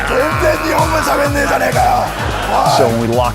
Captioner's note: yelling in Japanese